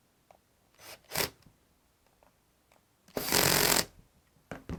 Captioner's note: drilling